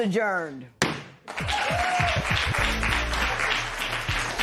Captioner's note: cheers and applause